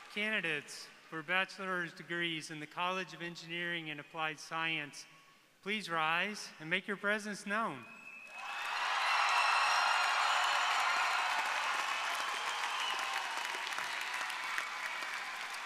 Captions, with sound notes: - Candidates for bachelors degrees in the college of engineering and applied science, please rise and make your presence known. (audience cheering)